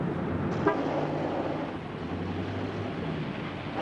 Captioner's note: car honks